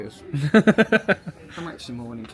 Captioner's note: laughing